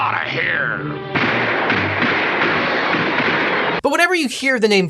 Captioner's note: guns banging